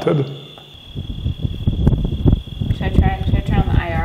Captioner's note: wind rustling